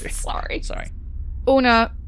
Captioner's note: laughing